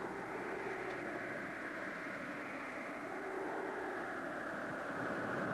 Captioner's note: wind howling